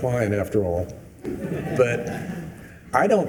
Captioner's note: attendees laughing